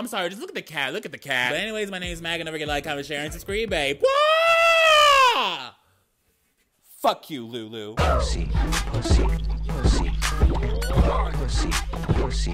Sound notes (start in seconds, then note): 3.8 man yelling; 8.0 dance music